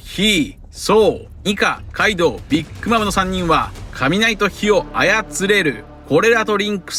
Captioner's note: lightning and fire